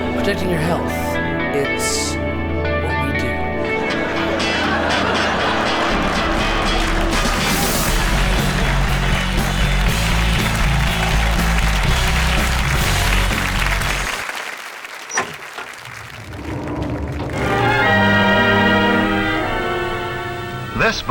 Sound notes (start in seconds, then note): 4.0 loud laughter from the audience; 10.5 cheers and applause; 15.0 door clicking; 17.3 classic music